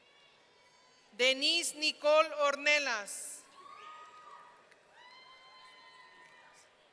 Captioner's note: audience cheering